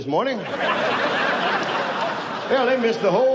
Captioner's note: audience laughs